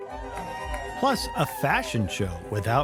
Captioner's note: cheering; gentle music